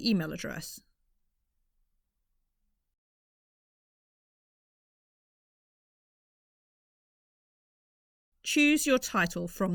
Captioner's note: silence